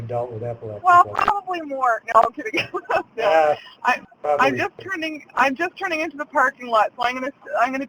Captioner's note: laughs